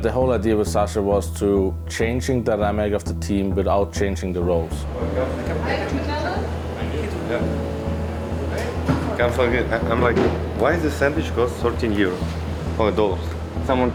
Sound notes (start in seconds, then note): 4.4 ambient chatter; 9.1 S1mple speaking faintly off mic